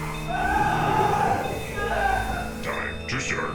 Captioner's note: victim screaming